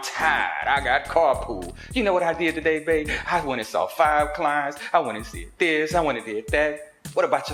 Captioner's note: In Tatyana voice